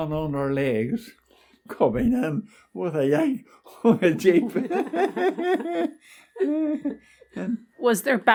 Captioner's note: all laugh